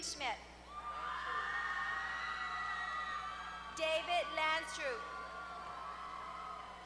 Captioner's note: applause